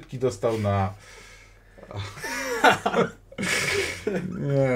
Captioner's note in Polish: śmiech